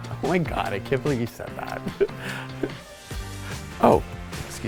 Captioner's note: laughs